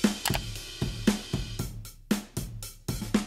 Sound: drum track playing; button clicks; drum track playing

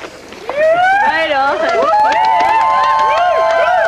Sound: cheers

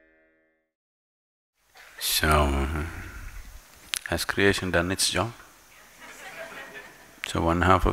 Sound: laughter

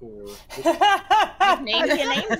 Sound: laughing

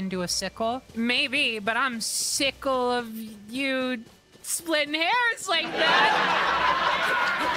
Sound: laugh Track

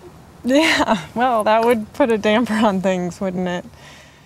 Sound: chuckling

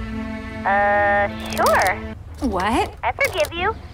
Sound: Angela on phone

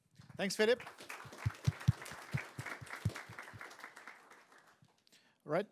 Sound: applause

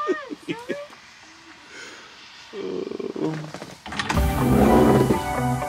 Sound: man laughs; upbeat music

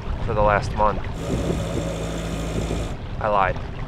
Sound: boat engine roaring

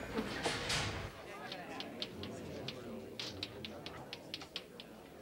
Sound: students chatter

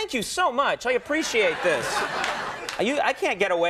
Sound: audience laughing

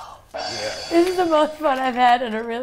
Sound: gong crashes

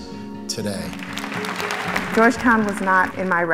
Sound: applause

